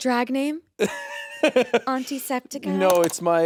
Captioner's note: Jacksepticeye chuckling